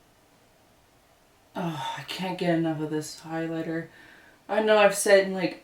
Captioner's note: sigh